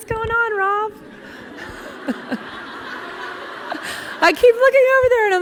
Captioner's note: laughing